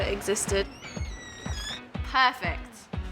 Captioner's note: squeaking